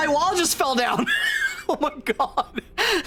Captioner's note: laughs